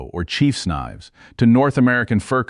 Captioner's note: serious tone